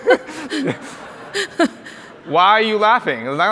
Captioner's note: audience laughs